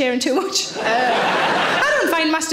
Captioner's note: audience laughing